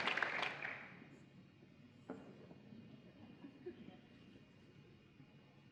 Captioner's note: applause